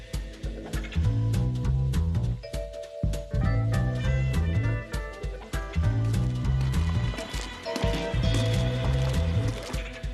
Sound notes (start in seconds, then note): 0.1 upbeat jazz music plays; 5.9 takes footsteps